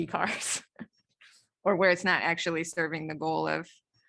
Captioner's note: laughter